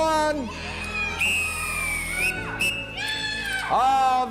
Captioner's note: whistle blares